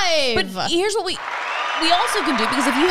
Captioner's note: crowd cheering